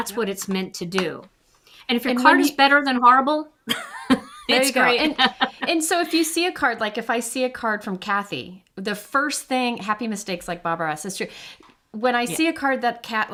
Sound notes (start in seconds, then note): 3.7 chuckles